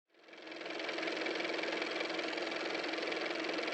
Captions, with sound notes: (car motor) hello, everybody